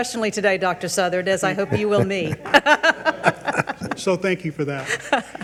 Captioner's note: laughs